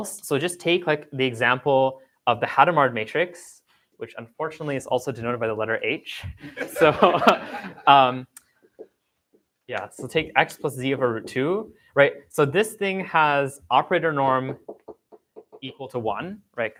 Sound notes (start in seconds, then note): 6.4 laughter